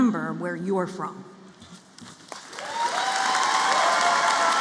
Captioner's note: applause